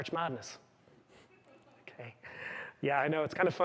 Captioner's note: chuckling